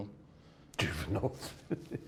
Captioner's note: laughs